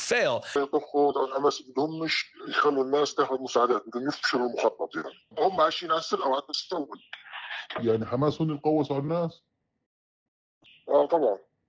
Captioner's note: acknowledge in Arabic